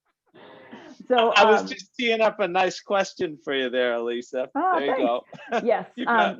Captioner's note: laughter